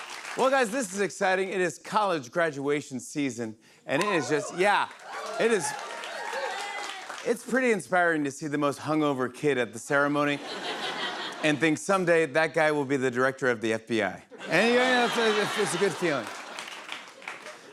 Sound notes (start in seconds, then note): 4.0 cheering; 4.0 cheers and applause; 10.3 laughter; 14.3 laughter